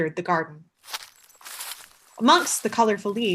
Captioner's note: crunchy leaf sound